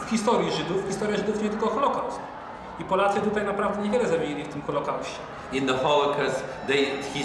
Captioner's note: speaking Polish